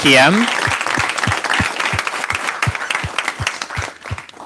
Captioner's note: applause